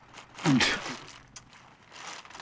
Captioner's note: spitting